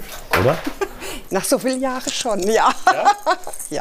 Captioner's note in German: lacht